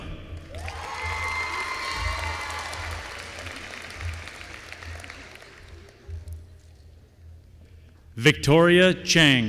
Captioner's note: applause